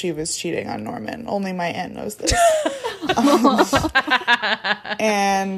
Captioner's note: laughing